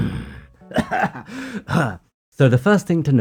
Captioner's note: cough